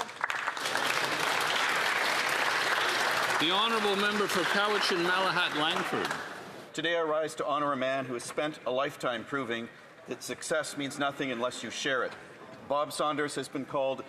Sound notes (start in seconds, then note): 6.9 some Applause